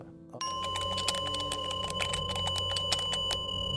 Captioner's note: bell ringing; eerie music; keys typing